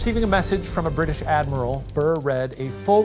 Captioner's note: screen whooshing; typewriter clicking